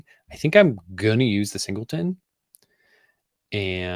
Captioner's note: none